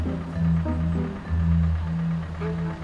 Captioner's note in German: Motorentuckern